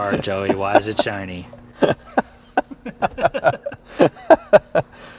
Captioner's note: both laugh